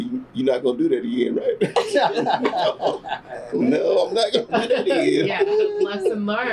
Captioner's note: laughter